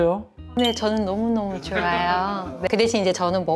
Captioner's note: laughs